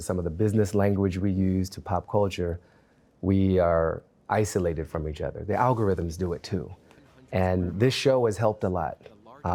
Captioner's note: none